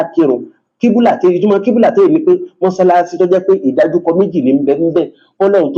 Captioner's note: reciting Arabic